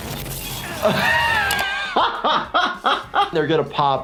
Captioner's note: laughing